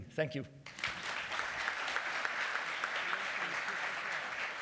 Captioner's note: applause